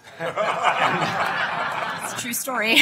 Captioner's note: laughter